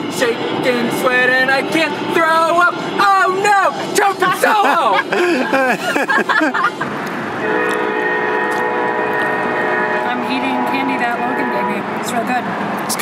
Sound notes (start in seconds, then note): 4.4 laughter; 7.4 loud train horn